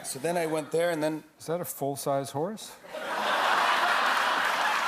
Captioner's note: laughter